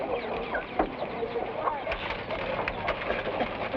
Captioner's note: people chatter